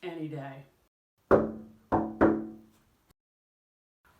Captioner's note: knocking on window